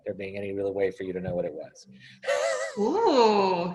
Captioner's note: laughs